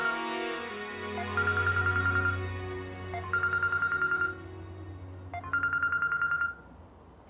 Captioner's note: phone ringing